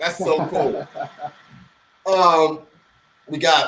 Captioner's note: laughing